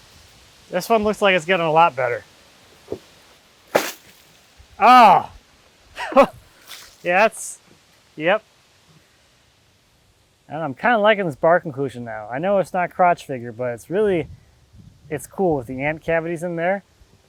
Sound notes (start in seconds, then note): 3.6 water splashing; 4.8 groans